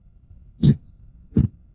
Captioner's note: cough